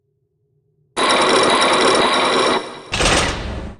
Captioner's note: chains grinding!; locks clack!